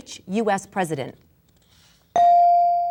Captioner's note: bell dinging